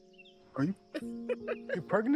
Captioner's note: laughter